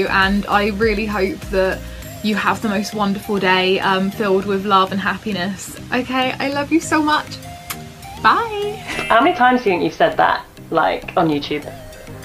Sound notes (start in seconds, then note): 7.5 kiss